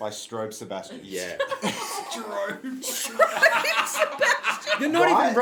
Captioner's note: group laughter ensues; laughing; laughs